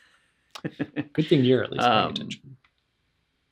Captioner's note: laughs